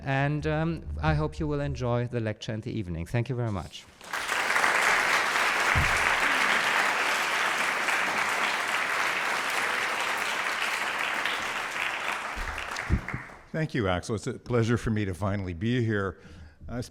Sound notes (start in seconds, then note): 4.1 audience applauds